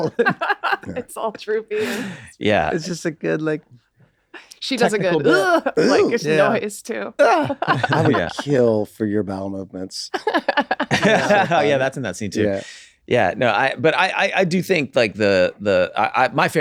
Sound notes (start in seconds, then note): 0.0 laughs; 6.1 gasps; 10.2 laughs